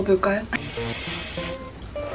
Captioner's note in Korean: 쓰으으읍